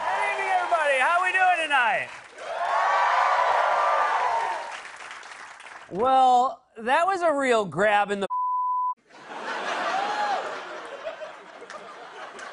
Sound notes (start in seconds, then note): 2.4 cheers and applause; 9.0 laughter